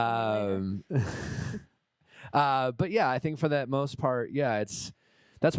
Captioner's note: chuckles